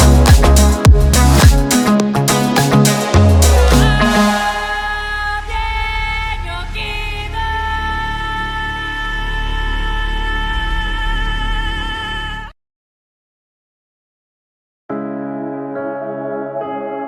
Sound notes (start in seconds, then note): 2.3 Dune scream sound effect